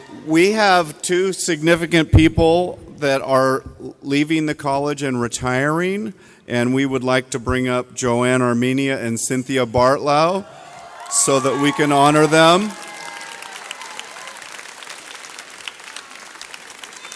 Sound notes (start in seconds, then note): 13.3 audience applauds